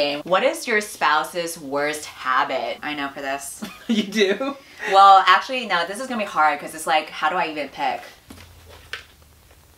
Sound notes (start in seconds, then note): 3.9 laughs